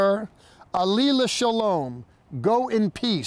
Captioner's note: speaking in Hebrew